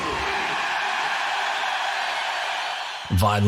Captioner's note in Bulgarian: публиката аплодира